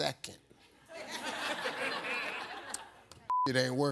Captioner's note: audience laughs